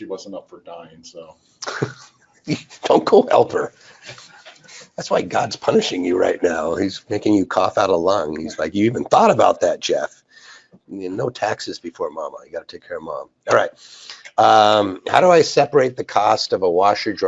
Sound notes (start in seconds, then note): 1.6 laughs